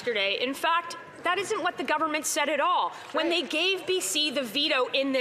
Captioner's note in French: voix de l'interprète